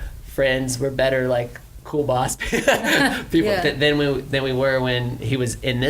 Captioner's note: laughs